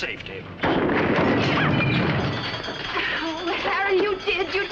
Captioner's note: loud Bang